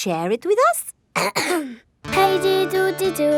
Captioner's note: clears throat